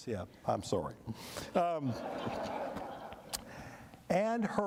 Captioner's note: laughter